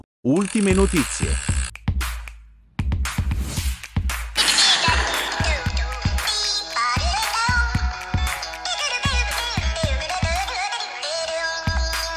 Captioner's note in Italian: Applauso